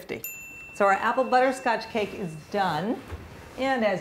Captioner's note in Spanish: sonido del horno